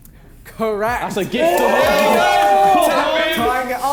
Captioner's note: men cheering